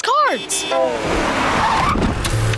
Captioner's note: honking